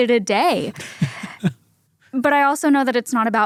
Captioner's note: chuckles